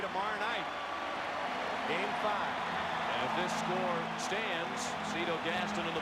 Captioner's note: applause